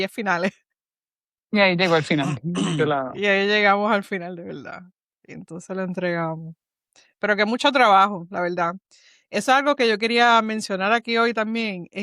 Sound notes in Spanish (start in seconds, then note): 2.2 carraspeo